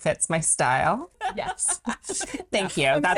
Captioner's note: laughing